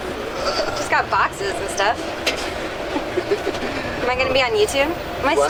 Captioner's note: laughs